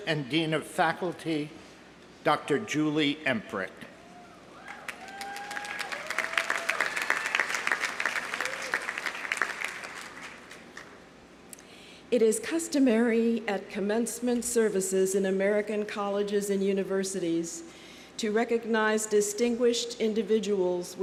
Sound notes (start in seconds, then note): 4.5 audience cheering; 4.6 audience applauding